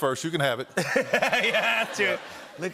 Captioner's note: laughter